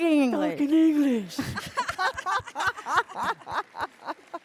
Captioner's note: lAUGHTER